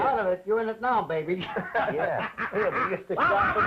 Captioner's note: laughter